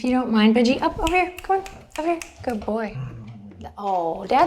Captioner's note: snapping